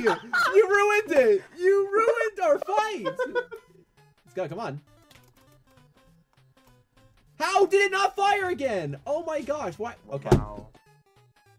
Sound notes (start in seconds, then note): 0.0 chuckles; 10.2 slams Desk